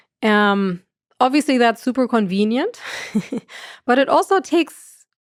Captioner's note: chuckles